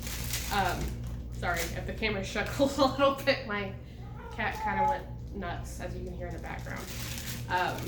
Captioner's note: meow!